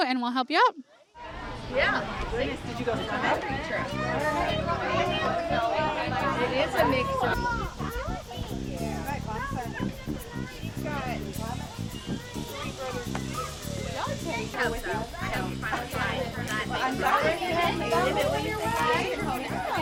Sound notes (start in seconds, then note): 1.6 upbeat music begins; 5.0 indistinct background chatter